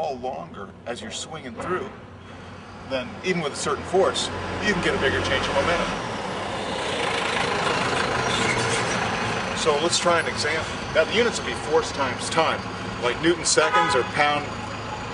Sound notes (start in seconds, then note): 6.4 very loud truck engine passing; 13.3 horn honking